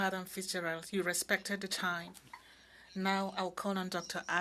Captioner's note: speaking in French